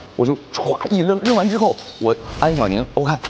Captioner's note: smashes the glass